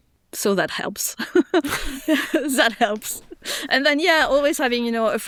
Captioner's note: laughing